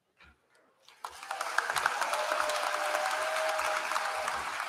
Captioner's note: applause